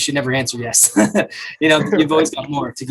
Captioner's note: both men laugh